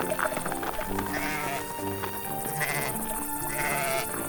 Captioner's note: sheep bleating